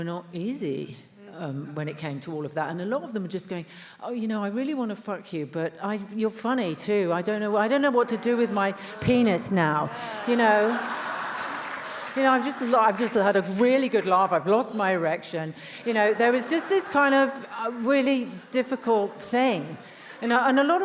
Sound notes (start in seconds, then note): 10.4 attendees laughs